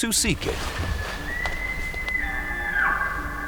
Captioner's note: elk bugling